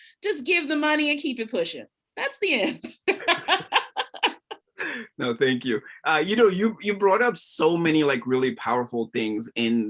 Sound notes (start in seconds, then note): 2.9 laughs